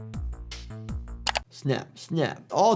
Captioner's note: keyboard clacking; upbeat music; keyboard clacking